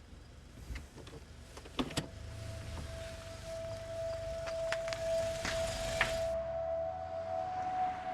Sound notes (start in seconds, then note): 0.1 car engine whirs; 2.1 puzzling music